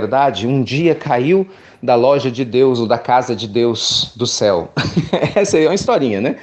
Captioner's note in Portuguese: Risos